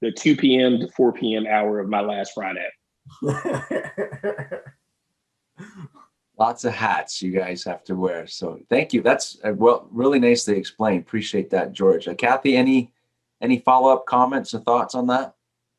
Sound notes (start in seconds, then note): 3.2 laughing